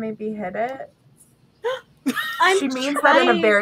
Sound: gasps; laughter

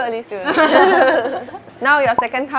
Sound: laughs

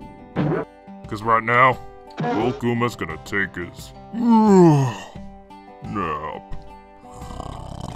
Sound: yawns; snoring

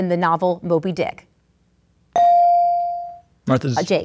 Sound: ding

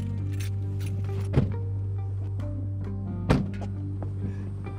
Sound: vehicle doors shutting

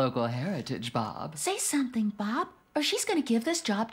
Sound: whispering

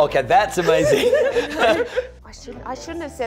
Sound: laughter

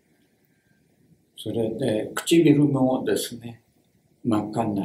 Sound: speaks Japanese

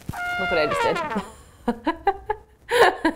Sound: laughs

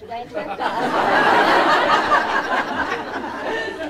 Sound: laughter

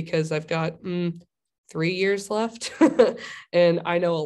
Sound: laughter

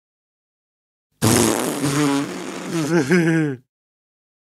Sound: sound of farting and laughing

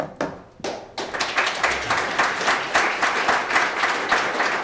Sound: audience applauds

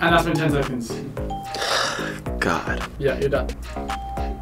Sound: ding; sighs; ding

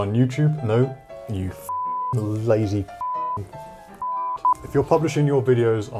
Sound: beep

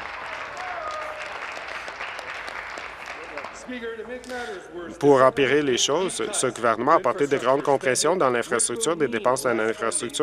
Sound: applause

